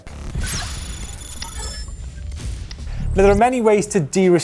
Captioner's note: electronic whirring